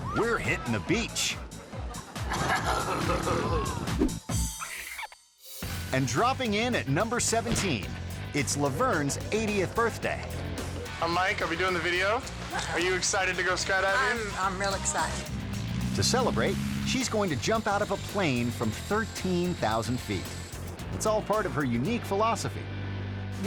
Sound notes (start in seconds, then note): 2.7 rider groaning; 4.3 air whoosh; 4.3 marker squeaking; 13.7 plane humming; 20.4 lively music